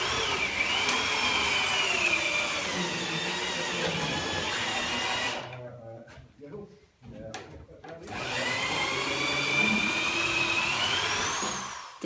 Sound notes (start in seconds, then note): 4.3 drill sounds